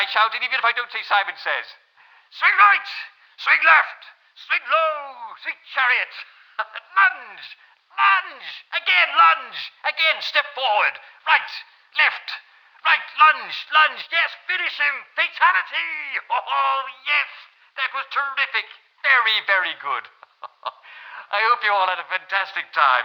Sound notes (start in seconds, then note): 2.2 shouts